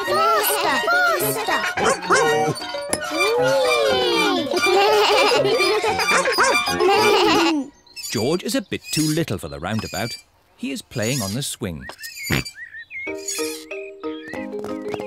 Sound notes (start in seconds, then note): 4.4 all giggle; 12.1 oinks